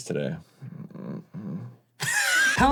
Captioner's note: curious yet sensual moaning